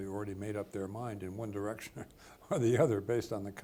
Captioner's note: chuckles